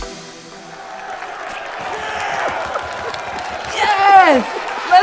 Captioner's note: people cheering